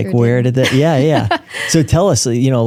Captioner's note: laughing